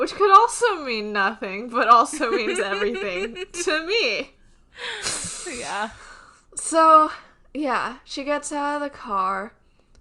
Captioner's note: laughs